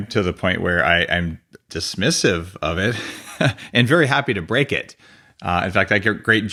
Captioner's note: laughs